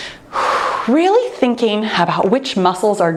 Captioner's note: exhales